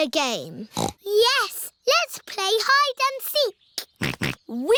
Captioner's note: snorts; snorting